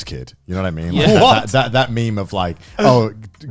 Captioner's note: laughs